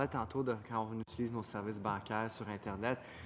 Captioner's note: speaking French